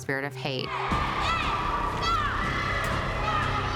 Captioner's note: yelling